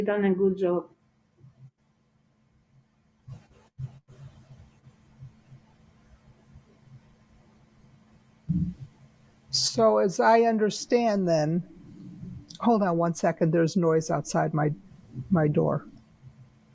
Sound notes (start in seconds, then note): 1.7 pauses 8 seconds